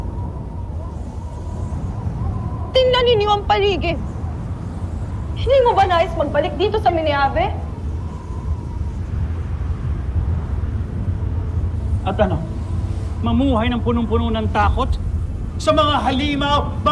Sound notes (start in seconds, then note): 0.2 wind howling; 8.2 melodramatic music playing; 8.2 wind howling